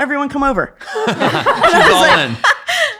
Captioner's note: everyone laughing